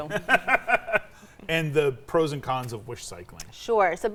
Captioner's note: laughs